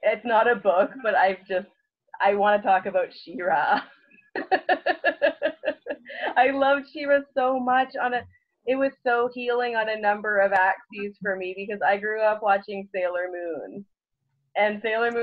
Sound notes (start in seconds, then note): 4.3 laughs